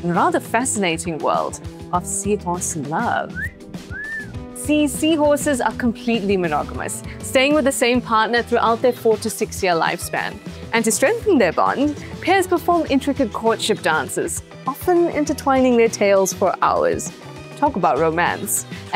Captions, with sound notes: and rather fascinating world of seahorse love. (someone whistles seductively) See, seahorses are completely monogamous, staying with the same partner throughout their four-to-six-year lifespan. And to strengthen their bond, pairs perform intricate courtship dances, often intertwining their tails for hours. Talk about romance.